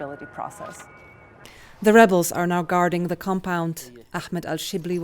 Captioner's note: voice-over